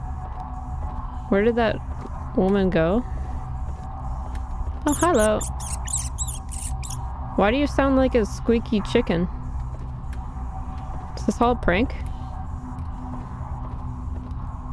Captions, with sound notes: Where did that woman go? Oh, hi-llo! [Squeaky noise, like dog toy] Why do you sound like a squeaky chicken? Is this all prank?